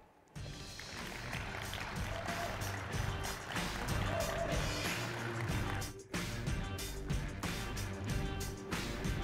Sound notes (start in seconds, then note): 0.3 upbeat music; 0.4 audience applauding; 3.6 audience cheering